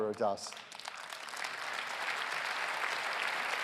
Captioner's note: applause